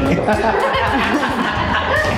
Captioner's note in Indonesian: Ketawa